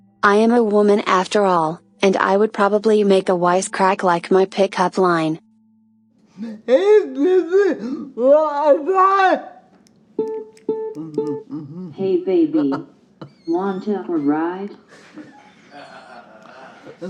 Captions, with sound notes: I am a woman after all, and I would probably make a wisecrack like my pick-up line... Hey, baby! Want a ride? (automated voiceover) Hey, baby. Want to have a ride?